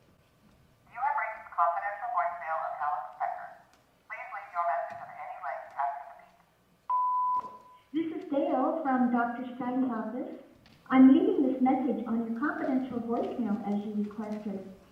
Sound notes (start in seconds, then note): 6.9 beep; 8.0 incoming voice message